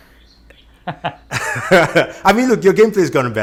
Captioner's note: both narrators laughing